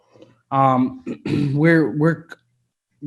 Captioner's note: clearing throat